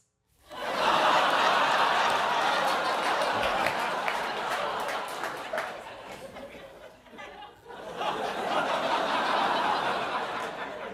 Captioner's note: laughing